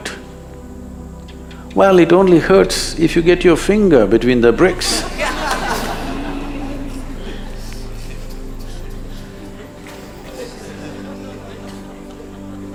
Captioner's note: laughter